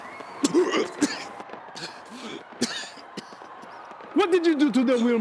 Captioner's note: distant people screaming